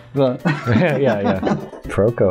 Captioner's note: laughter